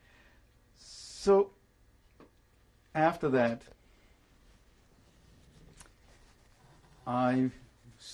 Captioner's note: pauses for 3 seconds